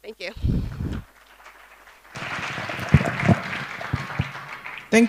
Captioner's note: applause